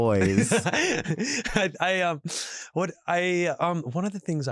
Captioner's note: chuckles